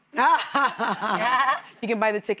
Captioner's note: laughing